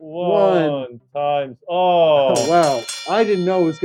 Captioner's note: bell ringing